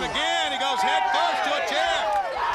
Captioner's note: crowd cheering